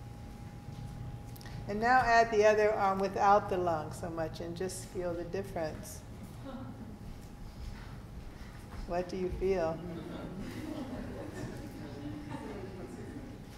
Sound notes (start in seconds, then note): 6.4 person chuckling; 9.8 people laughing